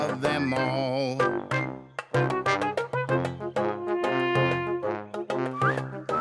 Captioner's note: melodic hooting; whistling